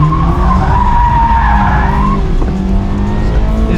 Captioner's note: car exhaust sound and music playing; drifting sound